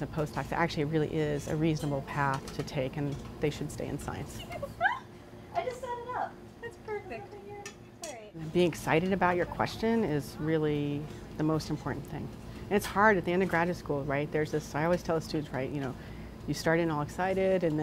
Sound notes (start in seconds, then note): 4.4 laughs